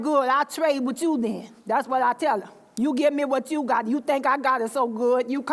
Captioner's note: none